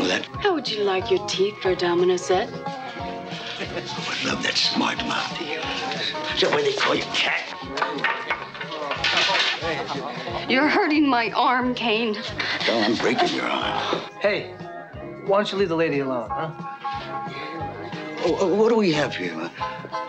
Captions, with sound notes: - How would you like your teeth for a domino set? - Without that smart mouth of yours, - Join it. - What are ya, Cat? (pool sticks clattering) - You're hurting my arm Kane. - No, I'm breaking your arm. - Hey, why don't you leave the lady alone, huh? - Wh, wh, what do we have here?